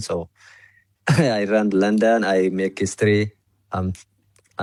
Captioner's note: coughs